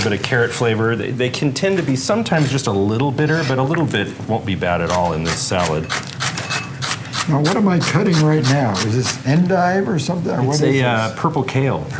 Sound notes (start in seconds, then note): 6.0 chopping